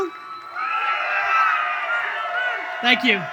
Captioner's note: audience cheers